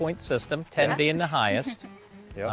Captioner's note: giggles